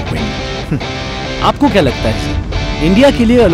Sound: man 1 on radio

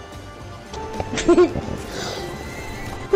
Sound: giggles

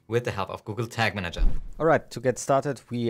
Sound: air whooshing

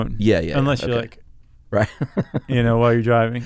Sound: laughs

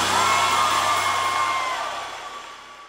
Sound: audience cheers

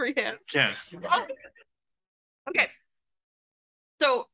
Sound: amused agreement sound

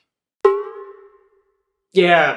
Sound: sound: Boing!

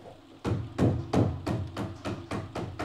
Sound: hammering

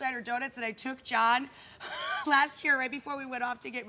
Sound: laughs

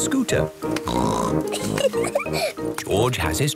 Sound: snorts, giggles

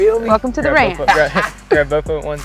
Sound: Nate laughs

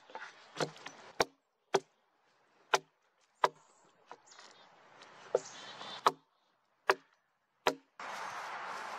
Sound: brushing the work with a gloved hand, branches crackling, foosteps; axe knocking on wood, chickadees chirping; foosteps in leaves, chickadees chirping, a car passing

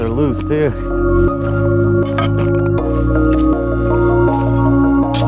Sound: metal clunking; upbeat music

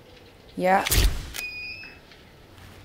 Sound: camera clicks

